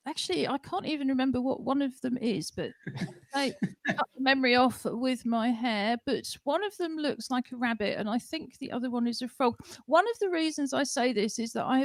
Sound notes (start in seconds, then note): 2.8 laughter